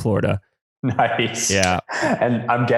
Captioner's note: laughs